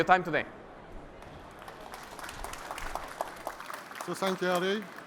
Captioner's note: applause